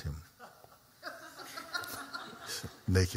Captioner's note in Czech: Smích